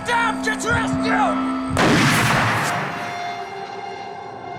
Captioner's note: gunshot